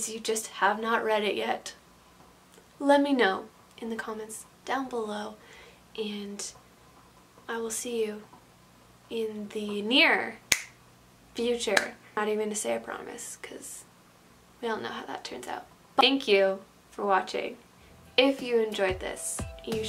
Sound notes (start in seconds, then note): 10.4 snaps; 11.8 claps